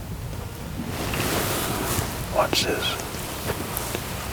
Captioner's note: whispering